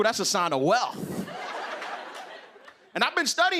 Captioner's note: laughter